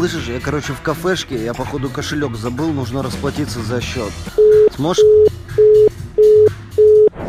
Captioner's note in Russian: Гудки